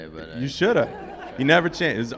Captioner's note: group laughing